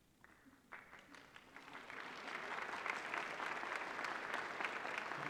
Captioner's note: applause